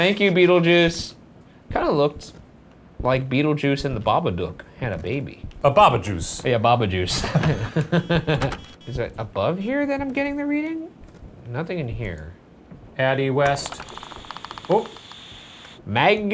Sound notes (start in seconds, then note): 7.2 laughing